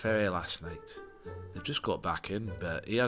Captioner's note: none